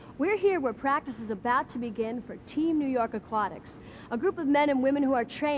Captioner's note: none